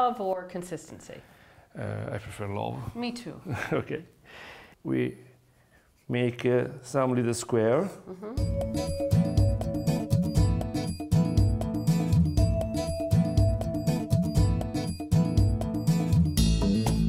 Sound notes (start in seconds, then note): 3.5 laughs; 8.7 upbeat music